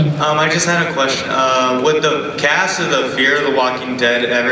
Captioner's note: voiceover